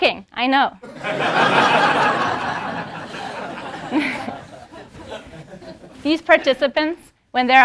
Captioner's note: laugh